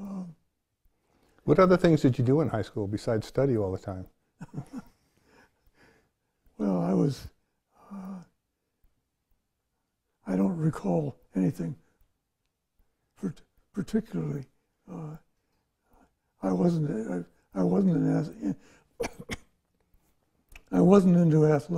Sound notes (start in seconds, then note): 4.4 laughs